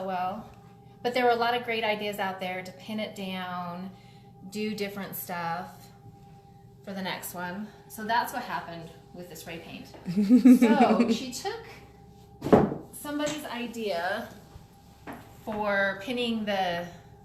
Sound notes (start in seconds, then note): 10.1 laughing